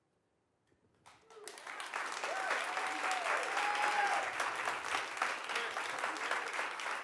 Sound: audience cheering and applauding

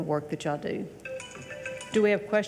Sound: phone alarm plays

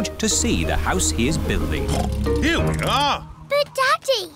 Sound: oinks

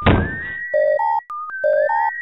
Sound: bump; beep

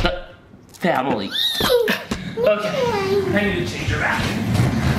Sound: Adley screaming

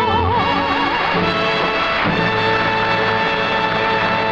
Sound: audience applauding

